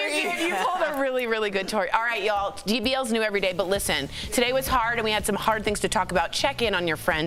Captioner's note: laughter